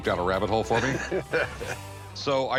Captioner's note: laughter